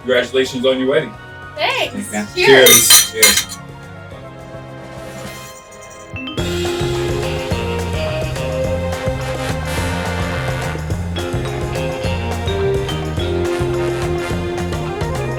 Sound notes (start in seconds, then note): 2.4 glasses clank; 7.1 upbeat music